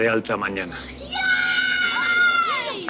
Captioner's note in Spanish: Gritos y exclamaciones